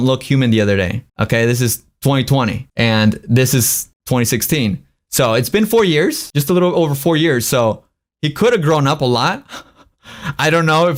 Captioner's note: laughs